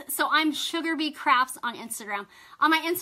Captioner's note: none